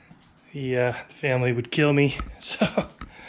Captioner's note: laughs